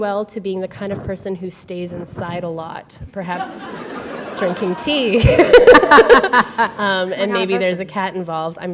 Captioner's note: laughter